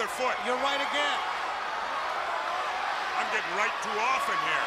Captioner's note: crowd chatter